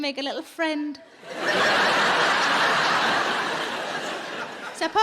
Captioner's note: audience laughing